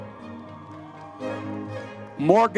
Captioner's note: audience members cheering